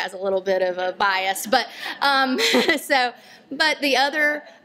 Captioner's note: laughter